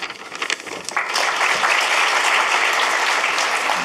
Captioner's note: applause